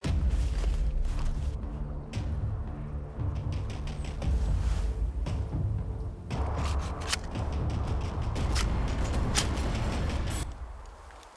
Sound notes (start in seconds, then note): 0.2 dramatic music; 6.6 gun cartridge clicks